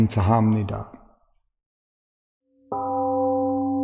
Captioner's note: temple gong rings and fades